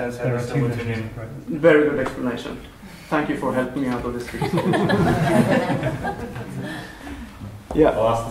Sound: laughter

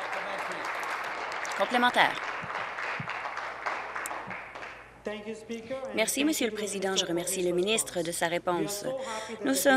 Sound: applause

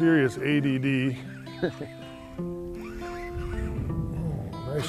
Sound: laughter

